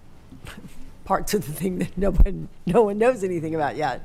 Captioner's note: chuckles